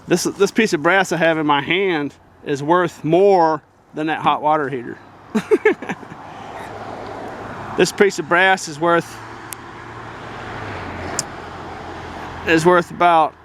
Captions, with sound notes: this piece of brass i have in my hand is worth more than that hot water heater (laughing)